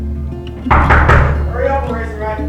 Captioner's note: knock at door